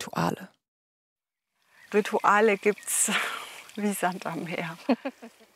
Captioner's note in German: lacht